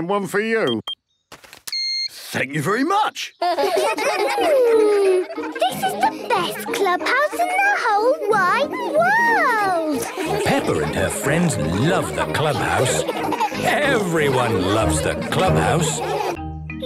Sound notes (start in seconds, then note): 1.7 beeps; 3.9 children giggling